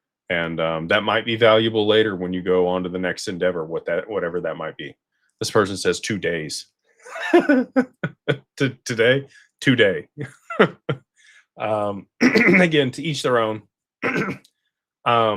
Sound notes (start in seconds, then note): 7.0 laughter; 14.0 clears throat